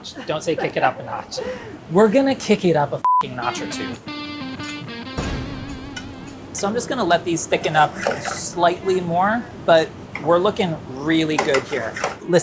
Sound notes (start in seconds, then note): 3.3 electric guitar riff; 5.0 dramatic boom